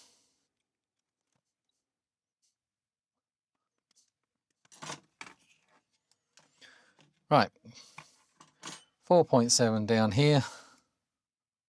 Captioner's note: blank Audio